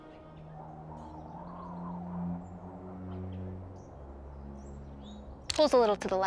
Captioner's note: wind blowing